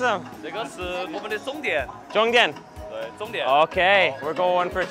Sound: speaks mandarin

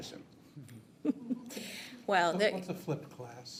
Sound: people chuckle

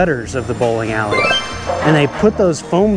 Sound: text tinkling

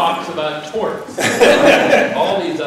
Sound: laughter

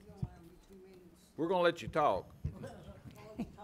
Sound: some chuckling

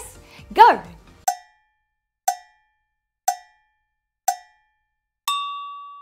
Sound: cowbell timer tings; high-pitched bell dings

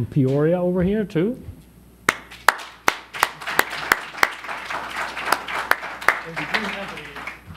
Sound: applause

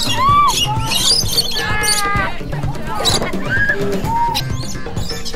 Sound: lorikeets squawking

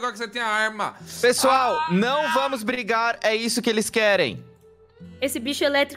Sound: screams

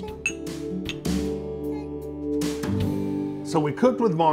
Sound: glasses clink

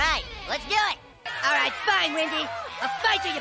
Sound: kids jeer and shout

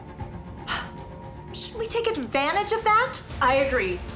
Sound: sighs

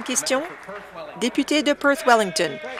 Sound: applause

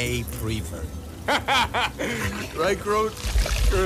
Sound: rocket laughing

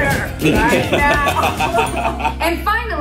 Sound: laughing

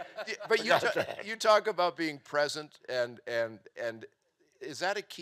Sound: stammering

